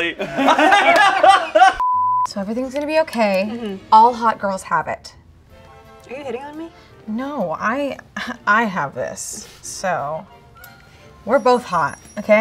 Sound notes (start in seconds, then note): 0.0 both laugh; 1.8 beep